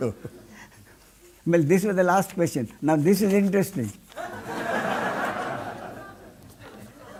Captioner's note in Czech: smích